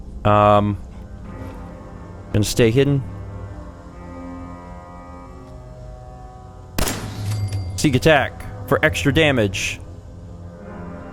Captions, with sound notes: Umm... Gonna stay hidden. *BLAM!* Sneak attack! For extra damage!